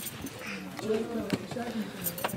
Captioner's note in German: Leises Stimmengewirr